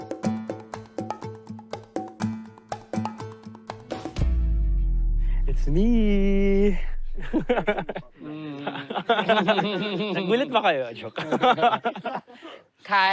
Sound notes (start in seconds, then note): 0.1 suspenseful music playing; 7.1 chuckles; 7.2 all chuckle